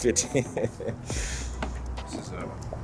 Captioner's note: member laughing